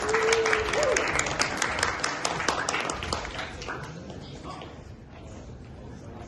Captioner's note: applause